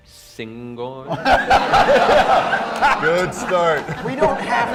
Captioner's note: laughter